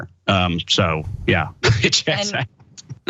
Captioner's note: laugh